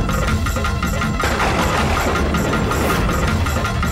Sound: thundering

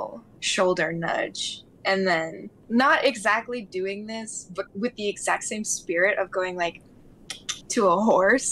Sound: clicking sound

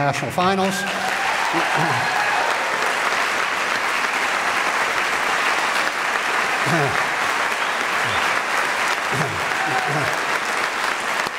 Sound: applause

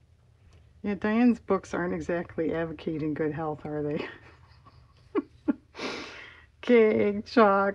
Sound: laughs

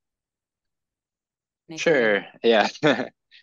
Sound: laughs

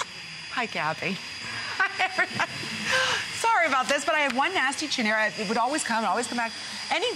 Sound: laughter

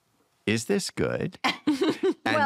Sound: laughter

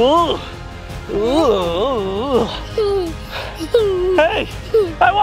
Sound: giggling suspiciously

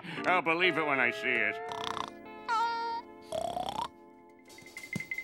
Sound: snoring

